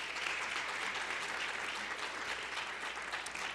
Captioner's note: applause